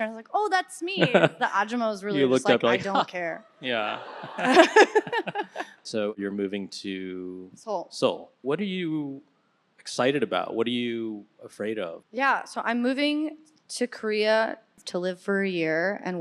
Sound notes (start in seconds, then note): 3.6 audience laughing; 4.1 laughing